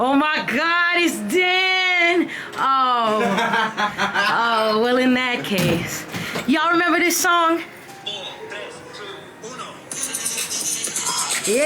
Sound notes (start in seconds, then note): 3.1 castmate laughing; 5.6 door thumping; 10.0 rhythmic music